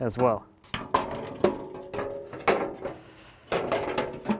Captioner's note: metal clunking